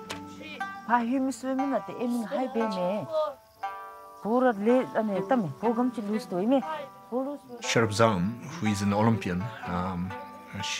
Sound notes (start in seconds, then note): 0.8 speaking in foreign language